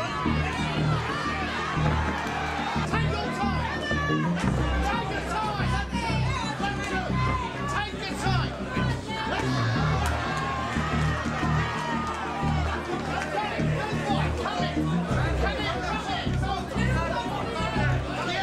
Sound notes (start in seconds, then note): 10.0 crowd cheering